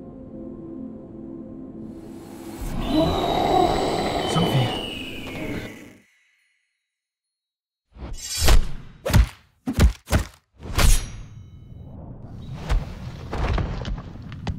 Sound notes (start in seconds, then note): 2.0 SOPHIE roars